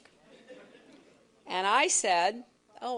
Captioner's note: laughter